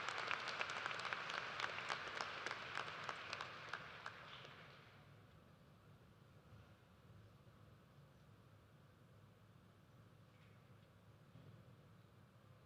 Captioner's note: cheers and applause